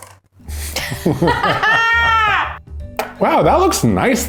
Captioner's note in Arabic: يضحك بصوت عالٍ